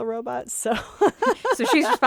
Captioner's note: laughs